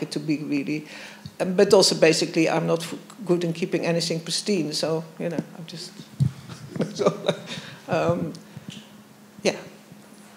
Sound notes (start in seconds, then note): 6.1 laughs